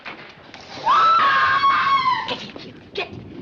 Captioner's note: scream